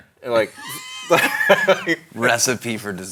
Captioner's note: both laughing